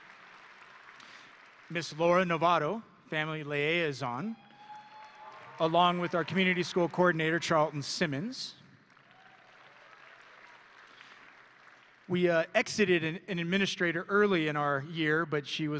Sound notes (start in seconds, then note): 0.0 audience and graduates applauding; 4.2 audience and graduates cheering; 8.8 audience and graduates applauding